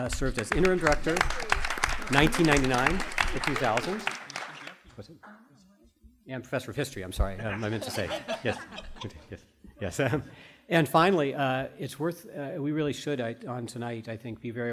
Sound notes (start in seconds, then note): 3.0 applause; 7.3 group laughter